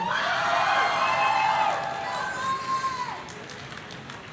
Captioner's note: audience cheering